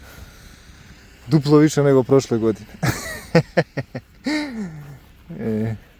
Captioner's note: laughs